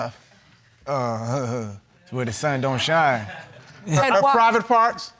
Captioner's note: chuckles nervously